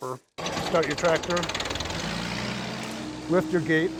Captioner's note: engine starting